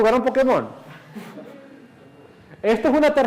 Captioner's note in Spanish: clase rie